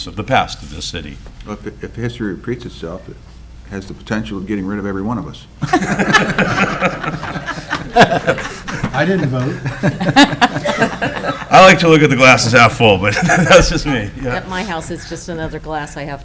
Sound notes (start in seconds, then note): 5.6 people laughing